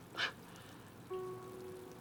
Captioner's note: exhales